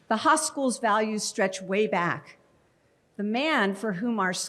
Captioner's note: none